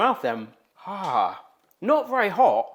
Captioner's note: host grunts